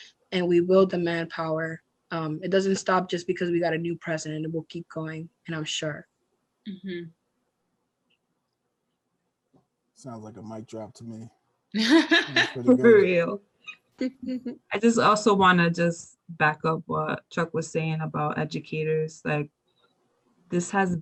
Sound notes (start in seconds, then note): 11.8 laughter